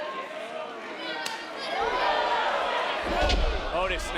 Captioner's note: loud slap